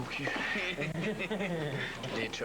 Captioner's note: Rires